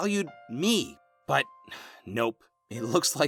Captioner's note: sigh